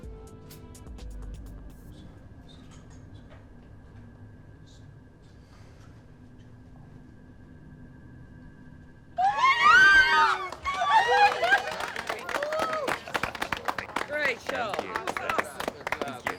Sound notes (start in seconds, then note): 9.2 cheers and applause; 12.8 laughs